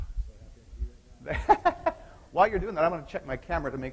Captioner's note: chuckling